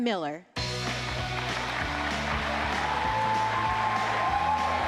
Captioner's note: applause, cheering